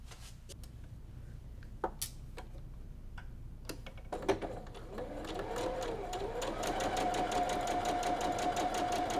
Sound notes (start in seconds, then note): 5.1 machine whirs